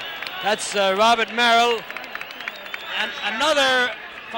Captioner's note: cheers and applause